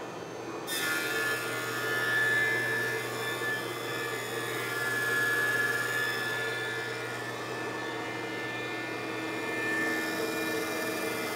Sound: planer buzzes

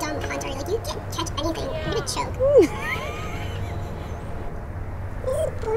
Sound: laughing

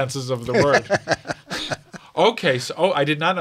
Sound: laughing

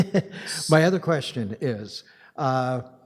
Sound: chuckles

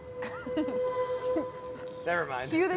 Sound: laughs

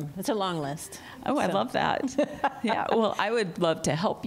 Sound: laughter

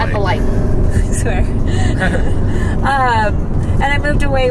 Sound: laughs

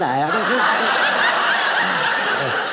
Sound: audience laughing

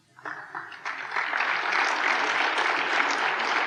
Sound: applause

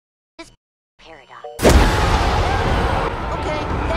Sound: persian messenger screaming

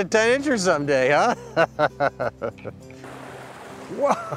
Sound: laughs

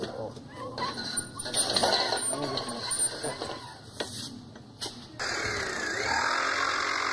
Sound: rattling; grinding

